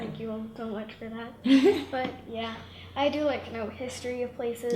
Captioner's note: laughs